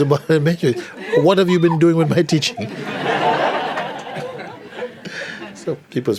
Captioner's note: laughter